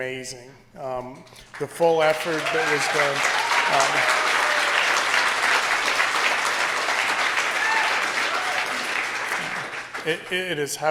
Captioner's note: applause